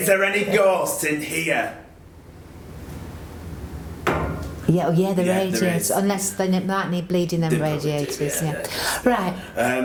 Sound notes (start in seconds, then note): 4.0 knocking sound from radiator